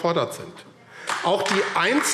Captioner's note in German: Beifall AfD